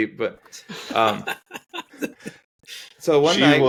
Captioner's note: laughing